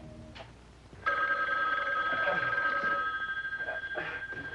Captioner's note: phone ringing